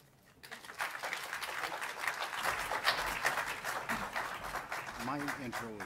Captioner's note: applause